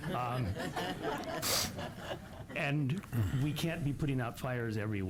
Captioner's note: laughter